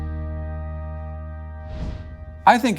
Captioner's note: gentle music; screen whooshes